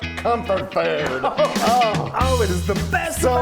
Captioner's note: laughing; clapping